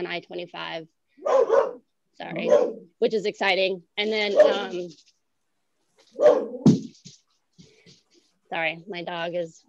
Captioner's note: barking; barking. Thud of a toy being thrown